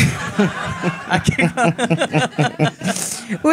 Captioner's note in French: rires